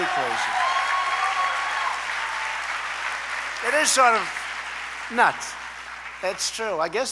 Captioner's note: applause